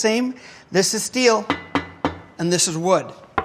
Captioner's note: wood knocking; metallic clanging